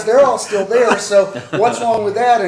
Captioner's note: laughter